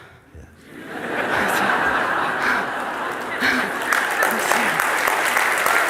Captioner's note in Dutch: gelach en applaus